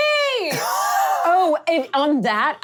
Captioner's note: laughing